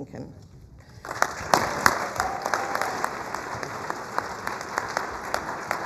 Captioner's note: applause